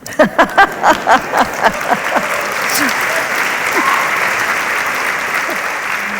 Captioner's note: laughs; audience applauds